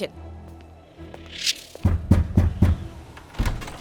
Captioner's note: knocking on door